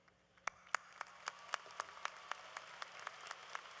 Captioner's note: applause